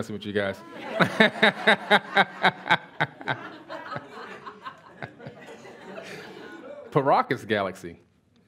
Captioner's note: laughs